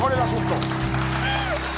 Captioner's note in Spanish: Aplausos